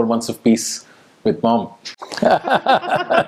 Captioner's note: both laugh